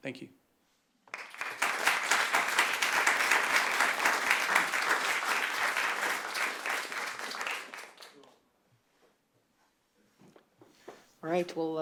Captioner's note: applause